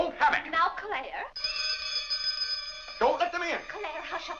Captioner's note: bell rings